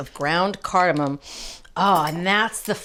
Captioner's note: sniffs